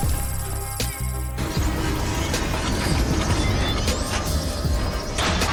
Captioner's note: Sycorax crashes; metal rattles